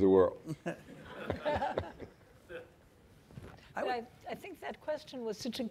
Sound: laughs; audience laughing

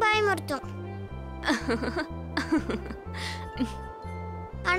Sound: laughing

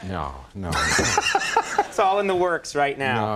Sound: laughter

